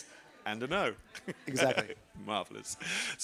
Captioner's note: laughs